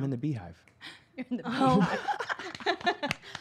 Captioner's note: laughs